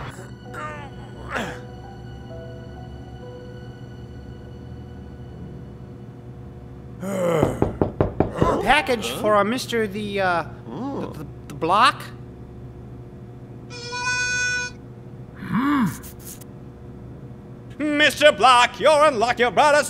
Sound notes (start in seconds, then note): 0.5 grunting; 7.4 knocking; 13.7 light harmonica music